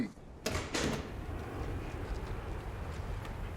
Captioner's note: jet flying